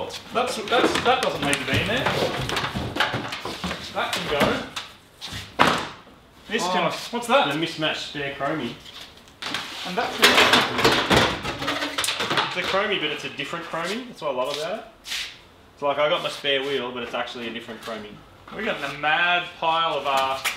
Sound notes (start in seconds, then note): 2.1 rattling; 5.5 thuds; 10.2 clattering; 11.3 tyre squeaks